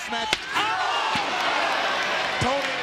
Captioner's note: crowd gasps